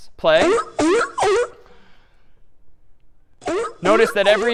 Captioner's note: sea lion barking